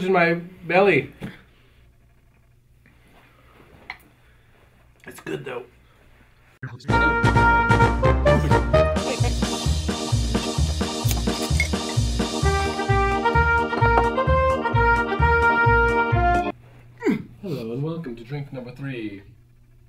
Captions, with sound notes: Guinness sold 779,000 barrels of beer in 1876. *Grunt*